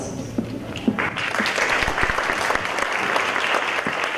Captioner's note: applause